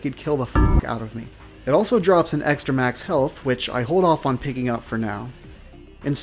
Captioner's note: noita gong sound